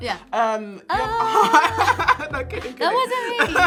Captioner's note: laughing